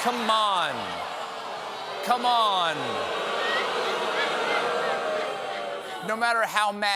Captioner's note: booing